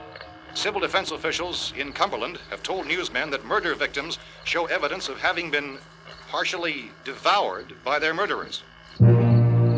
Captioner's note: radio news continues